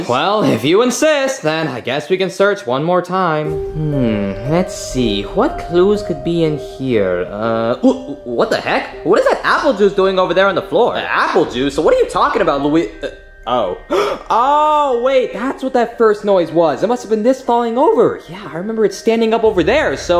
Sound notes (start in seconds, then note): 13.8 gasping